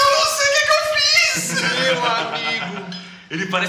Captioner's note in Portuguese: risada